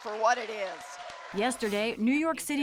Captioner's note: cheering and applause